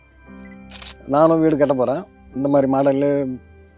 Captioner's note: in Tamil